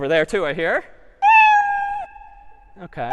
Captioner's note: meow